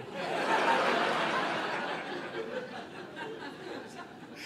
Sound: audience laughing

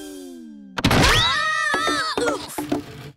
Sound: both screaming

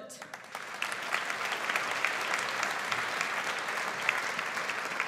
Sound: audience applauds

